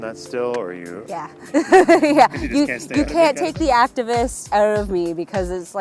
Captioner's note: laughs